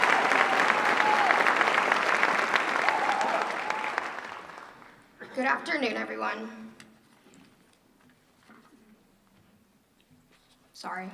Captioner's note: applause